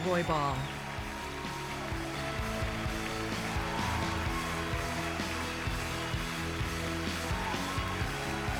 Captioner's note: cheers and applause